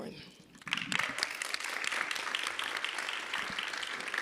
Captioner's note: audience applauding